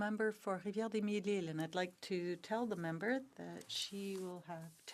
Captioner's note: speaking French